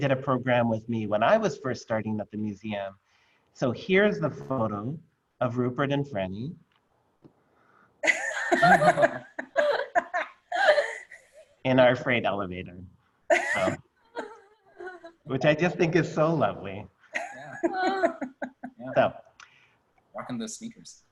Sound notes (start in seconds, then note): 13.3 laughter